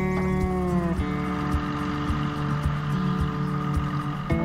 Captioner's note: tractor rumbling